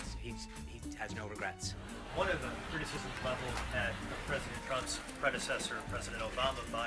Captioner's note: raucous laugh track